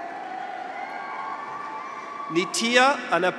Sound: graduates cheer

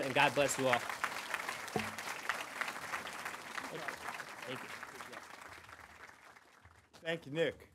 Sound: applause

